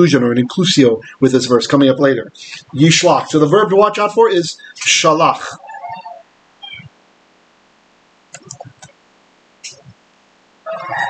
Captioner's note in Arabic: بالعبرية